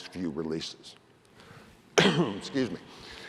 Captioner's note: cough